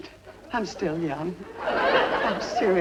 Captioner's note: audience laughing